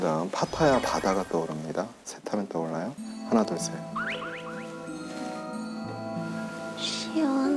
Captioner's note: A soothing sea